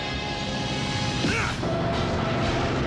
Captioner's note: grunts